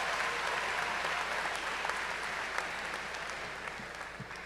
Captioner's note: cheers and applause